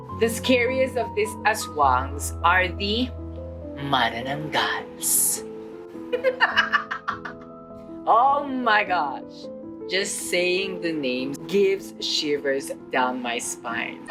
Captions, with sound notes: the scariest of these aswangs are the manananggals. [CACKLES] Oh my gosh! Just saying the name sends shivers down my spine.